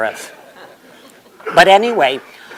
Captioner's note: laughter